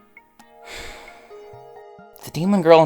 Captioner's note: exhale